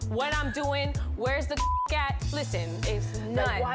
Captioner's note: beep